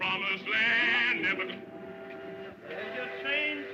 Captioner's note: train whistle